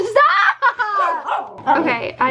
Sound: Mimmo barking

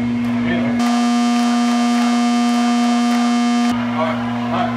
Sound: audience chants

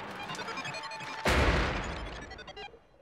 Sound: banging

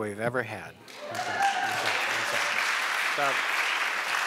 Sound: applause

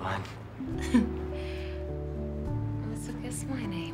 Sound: chuckling

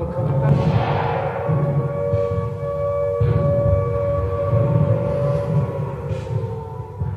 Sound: sirens blaring

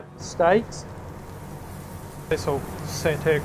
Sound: meat sizzles

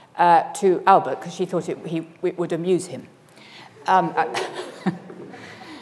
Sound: laughs

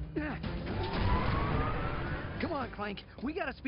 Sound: engine whirring

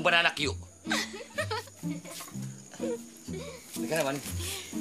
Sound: giggling

